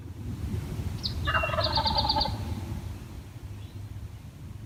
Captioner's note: turkey gobbling